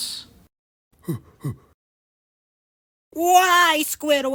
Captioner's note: Patrick huffs, twice